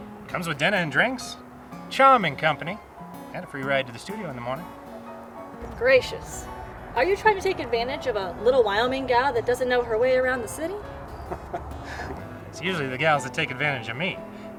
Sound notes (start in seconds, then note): 11.1 chuckles